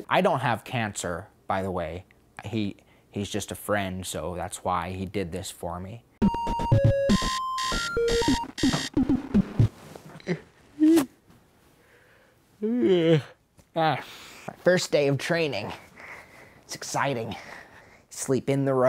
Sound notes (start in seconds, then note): 6.3 alarm clock buzzing; 10.4 yawn